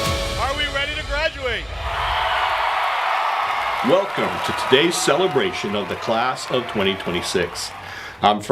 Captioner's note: cheering